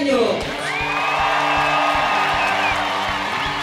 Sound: cheering and applause

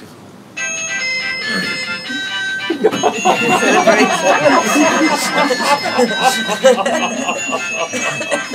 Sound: mobile phone rings, loud lively ringtone; laughter

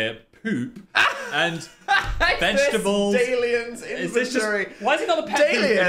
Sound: laughs

